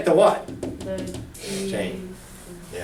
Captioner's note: voiceover